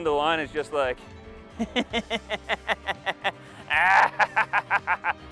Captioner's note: crazy laugh